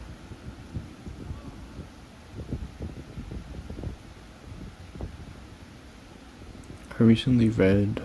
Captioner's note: wind